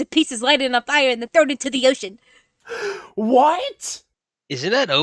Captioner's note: gasp